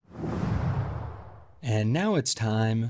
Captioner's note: air whooshing